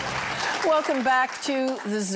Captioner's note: audience applauding